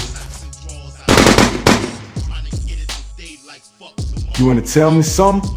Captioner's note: gun shoots